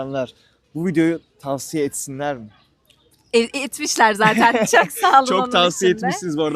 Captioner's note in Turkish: kahkaha